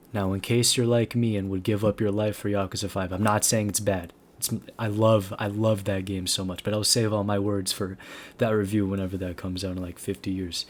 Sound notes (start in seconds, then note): 8.0 inhale